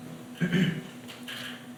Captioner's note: clears throat